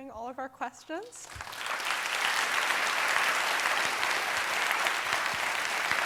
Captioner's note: applause